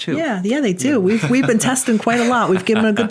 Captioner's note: laughs